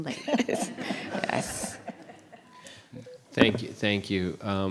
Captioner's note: laughter